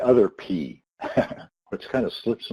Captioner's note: laughs